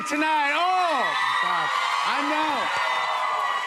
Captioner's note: cheers and applause